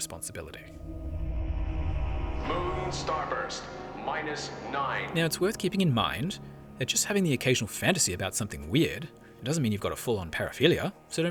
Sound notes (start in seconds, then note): none